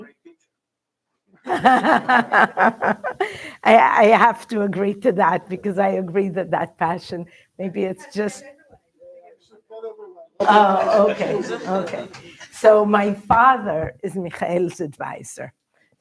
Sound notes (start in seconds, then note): 1.4 laughs